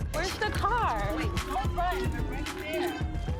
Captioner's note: sirens